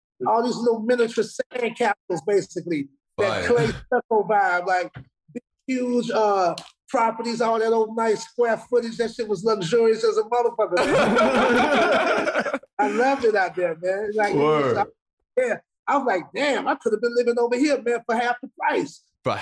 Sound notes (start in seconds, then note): 10.7 brothers laughing